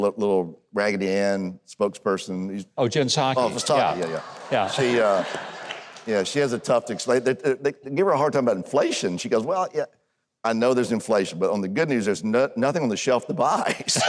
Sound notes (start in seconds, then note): 3.4 audience laughs